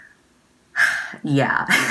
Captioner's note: 𝘱𝘢𝘪𝘯𝘦𝘥 𝘴𝘪𝘨𝘩